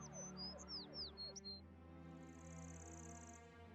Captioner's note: birds chirping